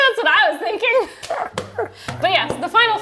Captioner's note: both laughing